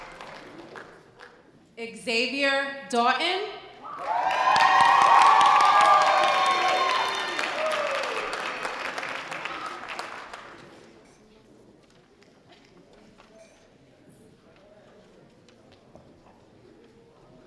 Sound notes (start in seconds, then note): 3.8 loud audience cheering